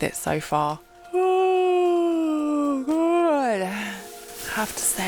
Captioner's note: yawn